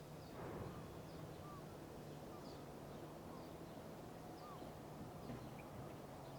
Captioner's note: birds chirping